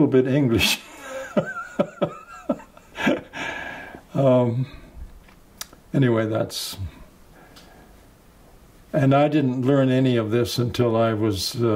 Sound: laughs

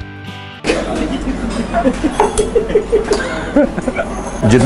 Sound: host laughing

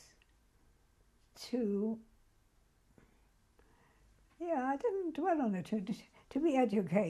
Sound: pauses for 3 seconds

